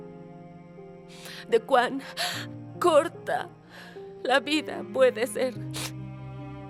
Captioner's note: Sollozando